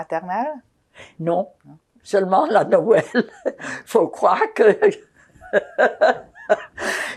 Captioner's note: laughing